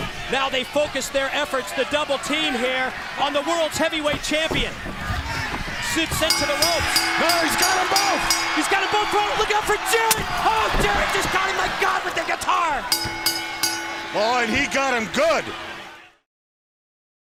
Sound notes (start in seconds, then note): 6.2 bell ringing; 12.8 bell ringing